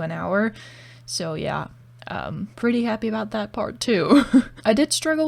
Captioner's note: laugh